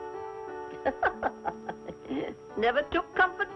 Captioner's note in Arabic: يضحك